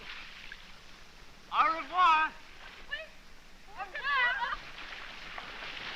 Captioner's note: bidding farewell in french